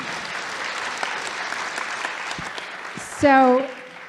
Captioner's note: audience applauding